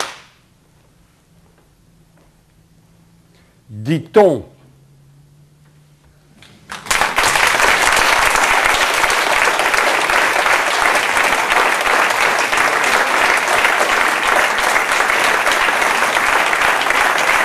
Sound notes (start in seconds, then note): 6.6 applause